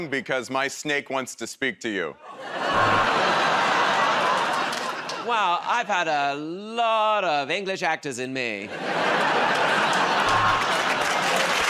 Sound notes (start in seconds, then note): 2.6 audience groans; 8.6 laughter